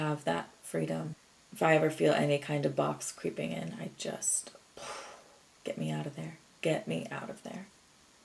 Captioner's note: exhales impactfully